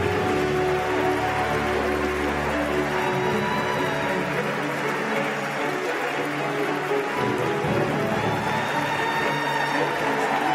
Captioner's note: applause